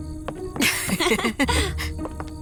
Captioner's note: both laughing